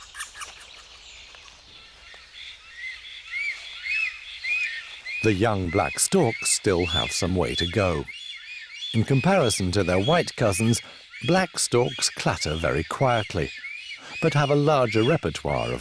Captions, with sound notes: [storks squawking] The young black storks still have some way to go. In comparison to their white cousins, black storks clatter very quietly, but have a larger repertoire